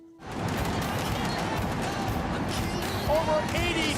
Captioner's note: fireworks booming